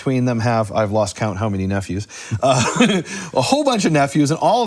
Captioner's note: laughs